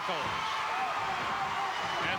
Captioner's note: audience cheering